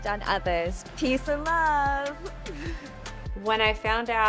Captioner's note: laughs